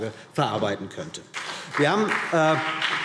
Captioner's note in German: Beifall BÜNDNIS 90/DIE GRÜNEN und vereinzelt CDU